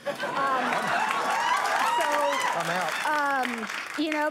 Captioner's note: applause